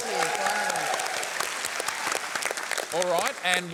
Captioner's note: applause